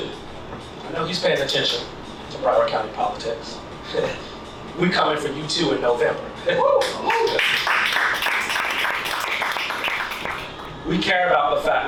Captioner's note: applause